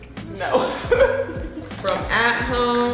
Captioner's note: laughs quietly